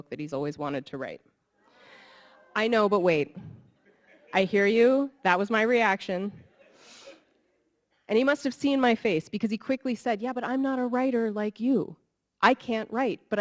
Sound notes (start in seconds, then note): 2.2 audience laughing